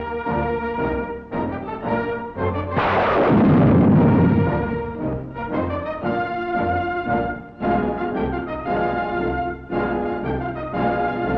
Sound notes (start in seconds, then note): 0.2 heroic music; 2.7 guns reporting; 7.9 heroic music